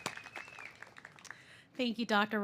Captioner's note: applause